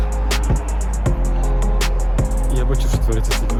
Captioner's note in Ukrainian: Шум зі стадіону